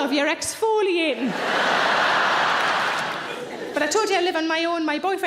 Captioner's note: audience laughing loudly